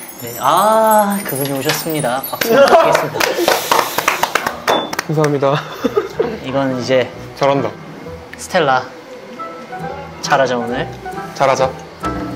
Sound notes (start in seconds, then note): 2.4 giving them a round of applause